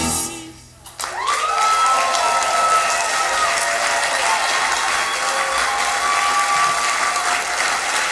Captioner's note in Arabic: تصفيق وهتاف. نهاية المسرحية